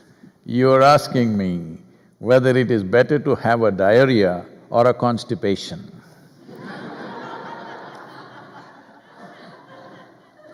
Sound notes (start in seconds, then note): 6.4 laughter